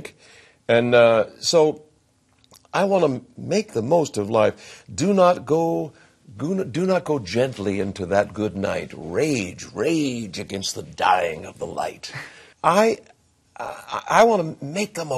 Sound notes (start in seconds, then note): 12.0 chuckles